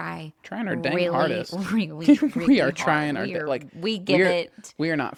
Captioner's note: laughs